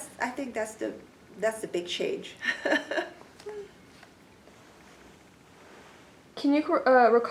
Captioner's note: laughs